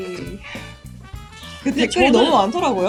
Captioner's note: sigh of embarrassment